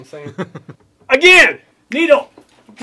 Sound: laughs

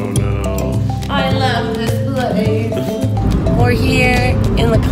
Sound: giggles

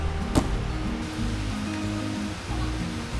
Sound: feet thud

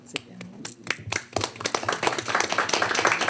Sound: applause

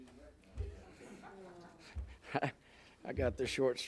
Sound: laughing

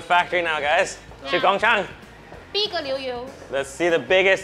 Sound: all speaks Mandarin

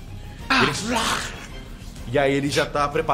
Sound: growl

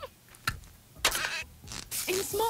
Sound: giggling; needle squeaking

